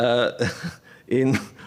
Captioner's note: laughter